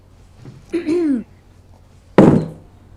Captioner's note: clears throat